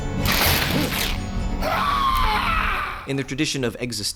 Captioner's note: screams